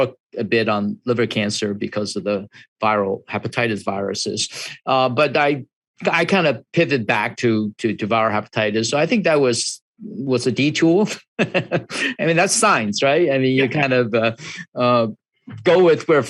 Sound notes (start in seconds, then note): 11.1 laughs